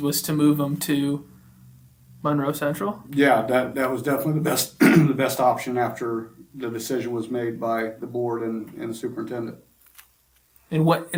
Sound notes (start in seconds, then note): 4.7 clears throat